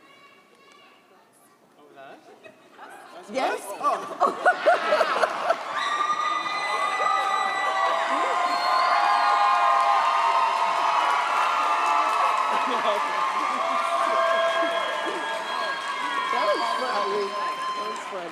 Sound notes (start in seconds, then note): 3.8 all laugh; 9.2 audience cheers